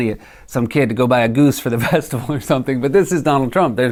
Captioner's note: laughing